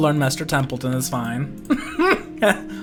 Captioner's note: laughter